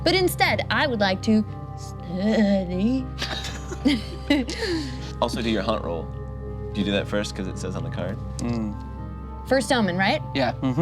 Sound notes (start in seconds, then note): 3.2 group laughs